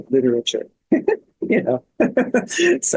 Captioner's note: laughs